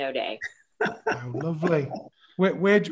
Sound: laughing

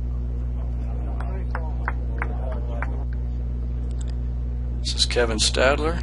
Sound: clapping

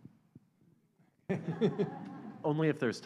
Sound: laughter

